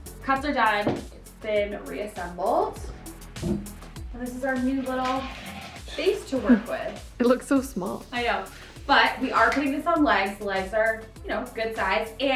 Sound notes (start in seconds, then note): 0.0 upbeat pop music continues; 6.4 chuckles